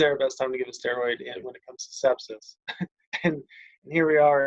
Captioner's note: laughs